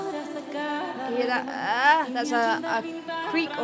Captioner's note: vocal humming